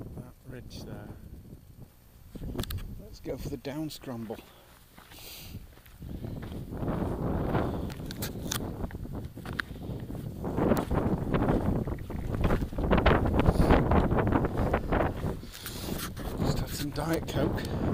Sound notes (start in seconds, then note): none